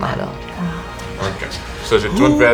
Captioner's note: Joel and Zara, whispering